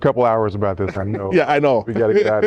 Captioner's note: laughter